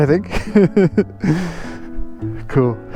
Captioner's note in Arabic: يضحك